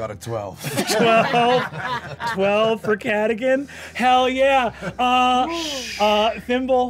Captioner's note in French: rires